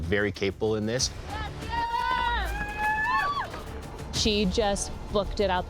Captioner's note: crowd cheering